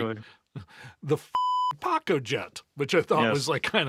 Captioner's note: beep